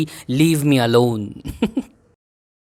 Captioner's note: chuckles